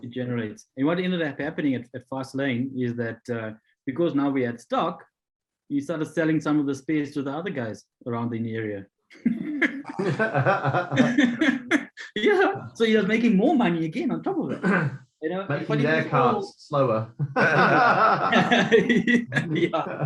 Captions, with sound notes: - It generates. And what ended up happening at Fastlane is that because now we had stock, you started selling some of the spares to the other guys surrounding the area (laughing). Yeah, so you are making more money again on top of that. - (clears throat) Making their karts slower. (all laughing)